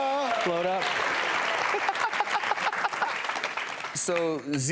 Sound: audience applauding

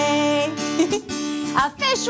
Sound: chuckles

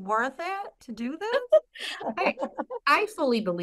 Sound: laughter

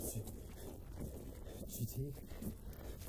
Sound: Jason gasps

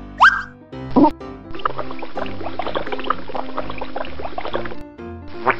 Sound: water running

